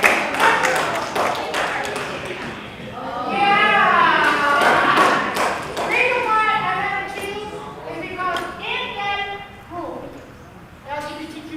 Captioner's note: applause